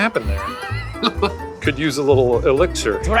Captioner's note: laughs